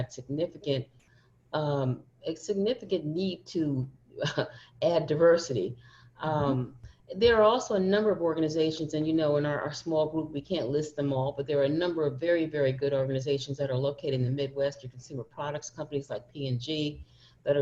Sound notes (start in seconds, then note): none